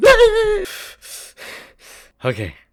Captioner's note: intense breathing